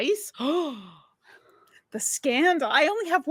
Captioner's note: gasping